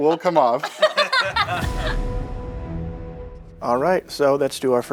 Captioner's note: laughter